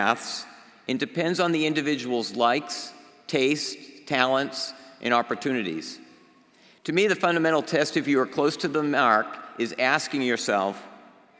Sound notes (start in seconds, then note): none